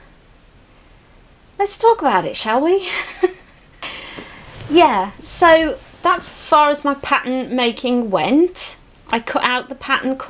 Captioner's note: giggles